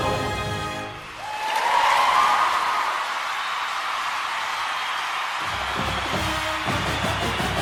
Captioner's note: applause and cheering